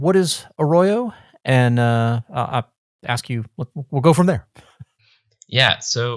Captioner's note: chuckles